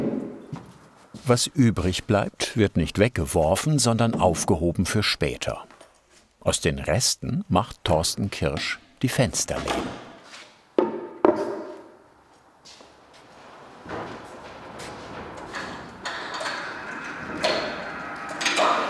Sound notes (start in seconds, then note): 16.3 clacking